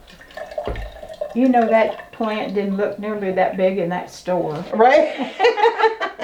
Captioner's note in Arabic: ضحك